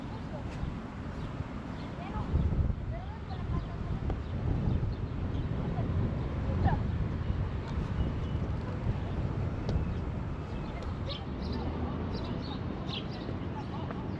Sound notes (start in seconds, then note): 2.4 sounds of children playing; 12.0 chirping bird sounds